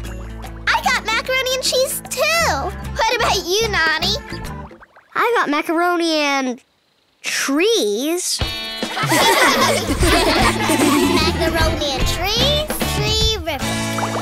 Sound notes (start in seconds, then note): 8.9 laughing